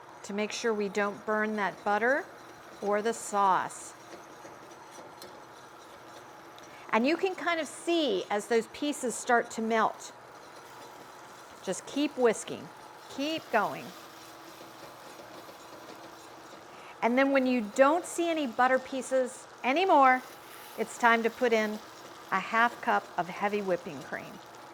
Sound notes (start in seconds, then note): 4.4 whisk whirring